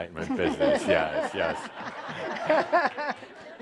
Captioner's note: laughter